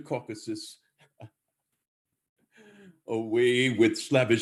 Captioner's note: laughs